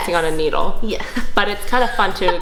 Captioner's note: laughs